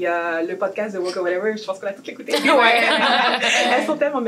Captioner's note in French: rires